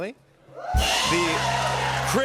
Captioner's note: cheers and applause